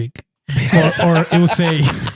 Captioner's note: laughing